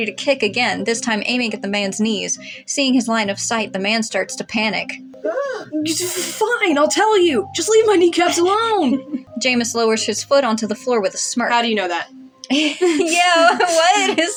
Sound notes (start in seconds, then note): 5.2 Mr. Invisible Yelps; 12.4 chuckle; 12.5 laughing